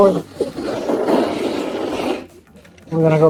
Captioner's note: snowboard scratching